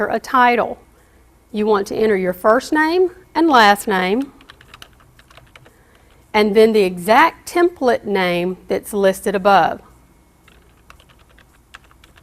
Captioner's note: typing